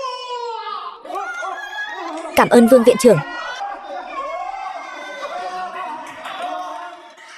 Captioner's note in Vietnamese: Vỗ tay